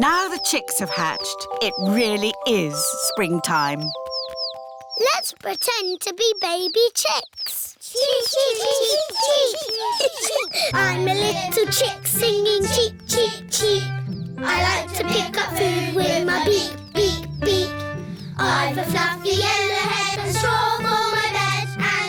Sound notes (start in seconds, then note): 8.1 children imitating chicks